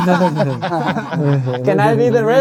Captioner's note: laughing